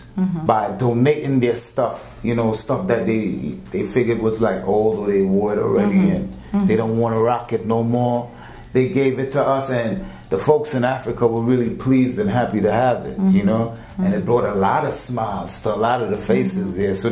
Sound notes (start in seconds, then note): none